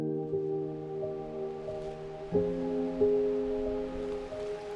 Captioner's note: water flowing